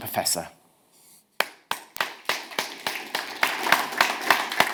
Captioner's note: audience applauds